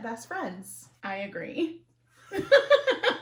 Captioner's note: laughter